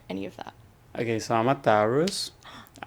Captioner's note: gasps